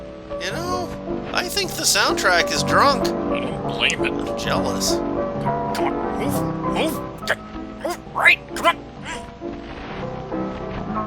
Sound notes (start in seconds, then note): 5.7 quietly grunting